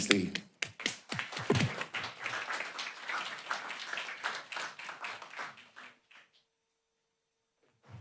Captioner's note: applause